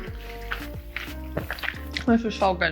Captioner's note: chews food